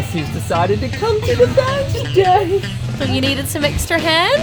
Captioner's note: funky music; laughing